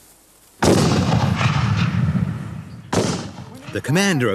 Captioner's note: guns bang